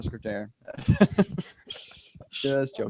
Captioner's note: laughter